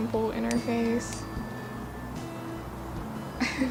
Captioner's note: phone dings